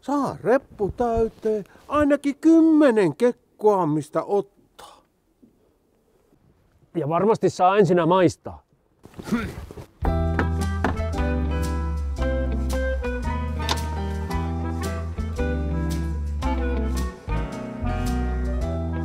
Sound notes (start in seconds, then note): 10.1 Johan snorts, knocking on the door, music starts